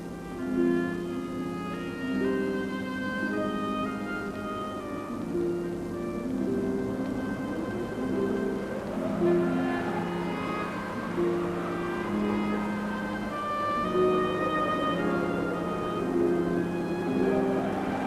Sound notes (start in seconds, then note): 6.8 wind howls